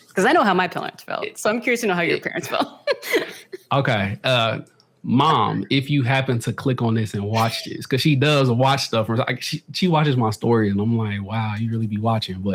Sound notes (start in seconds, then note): 2.1 laughs